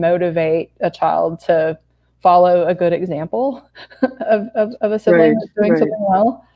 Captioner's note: laughs